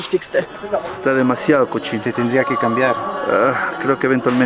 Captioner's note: in Spanish